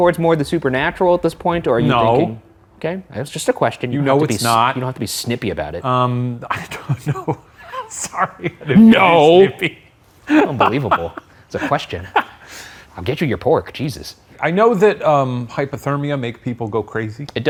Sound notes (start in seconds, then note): 6.7 laughs